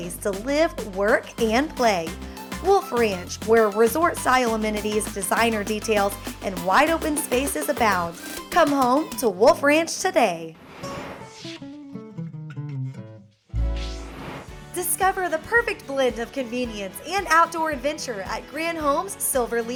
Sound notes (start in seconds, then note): 11.4 whoosh